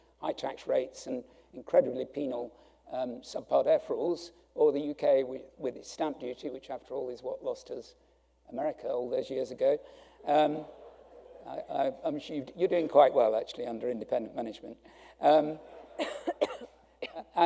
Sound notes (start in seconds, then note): 10.2 audience laughing; 15.6 laughing